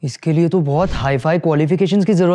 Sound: speaking hindi

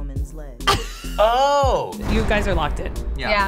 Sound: laughing

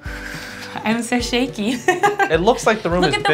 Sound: exhales; laughs

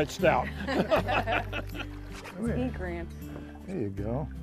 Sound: laughter

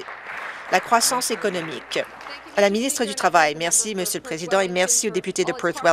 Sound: applause

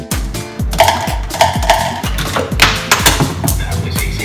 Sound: upbeat music; objects clattering

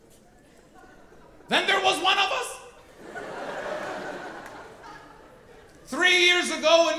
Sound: audience laughing

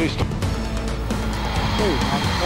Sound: C-20 taking off

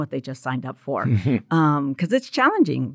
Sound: chuckles

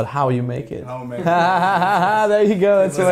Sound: laughing

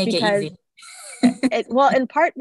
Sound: laughs

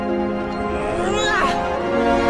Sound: Ivy yells

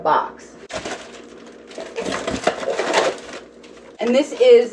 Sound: paper crumpling

